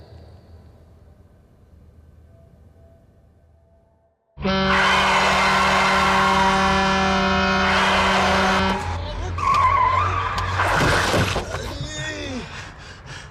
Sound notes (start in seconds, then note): 4.3 truck horn